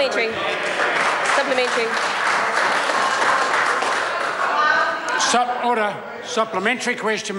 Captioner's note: members applaud